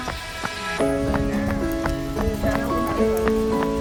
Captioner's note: sound of running footsteps